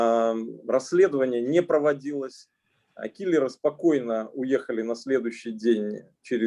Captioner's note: speaking Russian language